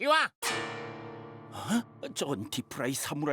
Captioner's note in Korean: 놀라는 소리